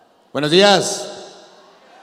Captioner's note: speaking in Spanish; audience responds